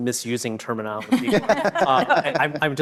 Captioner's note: all laughing